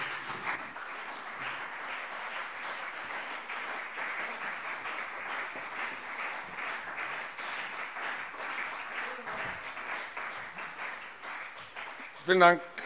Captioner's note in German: Beifall CDU und BÜNDNIS 90/DIE GRÜNEN